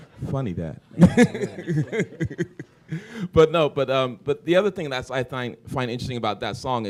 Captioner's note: laughter